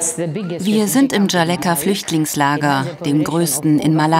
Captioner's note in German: englisch